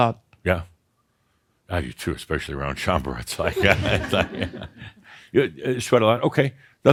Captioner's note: Adamus chuckles